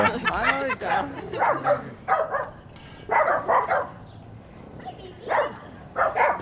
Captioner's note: laughter; dogs barking